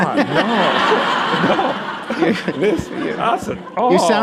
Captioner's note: laughter